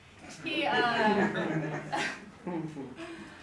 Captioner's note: audience laugghter